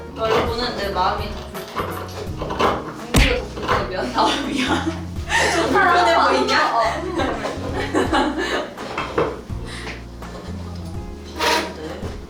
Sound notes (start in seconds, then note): 3.9 haha